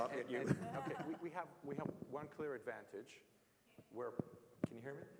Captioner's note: laugh